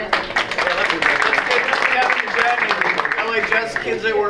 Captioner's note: speaker drowned out by audience applause